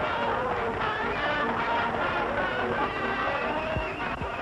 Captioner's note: audience applauding